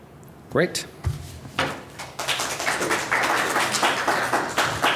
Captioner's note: applause